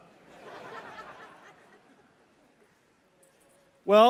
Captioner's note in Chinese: Laughter; 笑聲